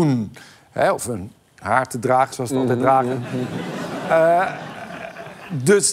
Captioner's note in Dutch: gelach